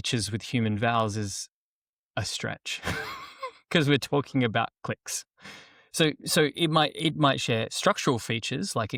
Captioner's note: laughs